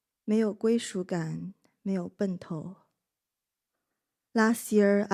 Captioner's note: speaker speaking in a foreign language